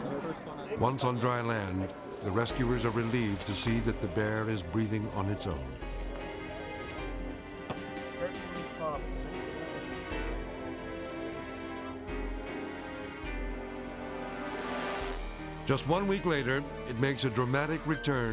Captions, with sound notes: Once on dry land, the rescuers are relieved to see that the bear is breathing on its own. (soft music) (crowd chattering) Just one week later, it makes a dramatic return